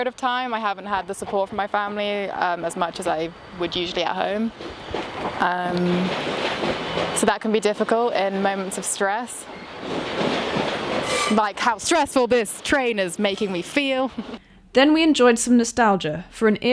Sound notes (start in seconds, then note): 5.3 train passing; 9.8 train passing